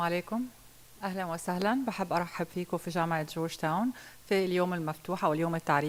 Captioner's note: speaking in foreign language